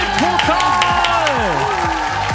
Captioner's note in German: Jubel